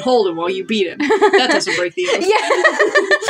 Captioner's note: chuckle; laugh